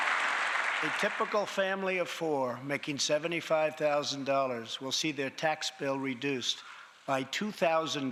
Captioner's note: applause